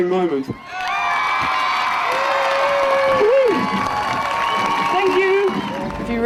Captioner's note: audience cheering and applauding